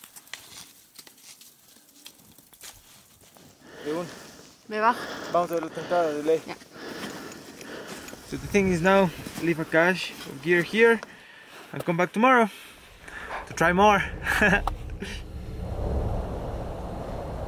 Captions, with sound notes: So, the thing is, now, leave a cache of gear here and come back tomorrow to try more. (laughs)